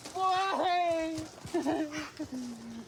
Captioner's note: sobs